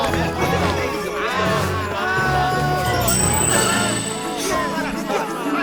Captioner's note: cheering